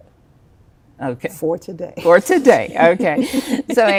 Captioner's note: chuckles